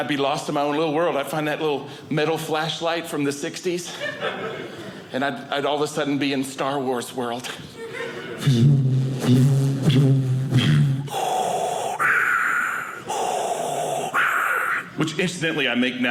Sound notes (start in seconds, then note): 7.9 light saber sounds; 10.5 Darth Vader sound